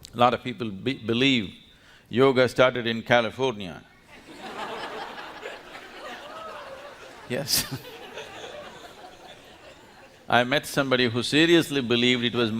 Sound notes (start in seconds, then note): 4.1 laughter; 8.4 laughs